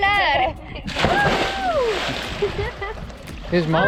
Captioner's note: laughter